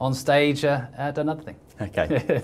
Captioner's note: laughs